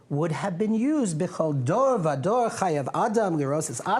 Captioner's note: non-english speech